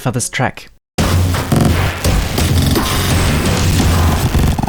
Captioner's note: digital sounds